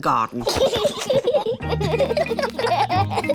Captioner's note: both laughing